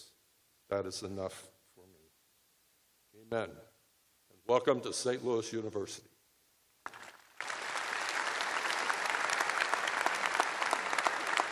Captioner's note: applause